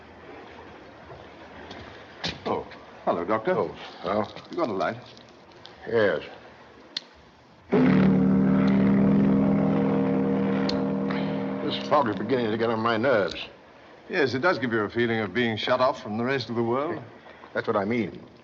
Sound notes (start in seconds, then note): 7.7 horn Blowing